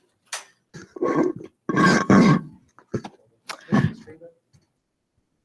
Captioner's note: microphone crunching